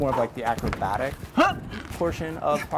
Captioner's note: grunting